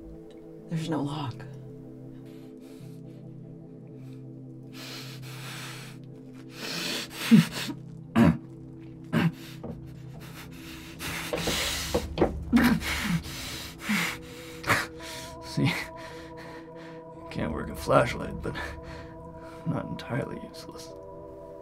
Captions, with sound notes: - There's no lock. (Caleb panting and grunting) - See, I can't work a flashlight, but I'm not entirely useless.